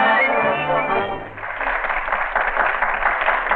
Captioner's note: applause